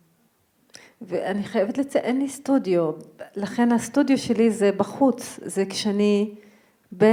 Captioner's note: speaking in foreign language